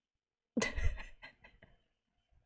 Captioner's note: laughs